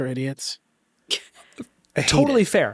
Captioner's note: chuckles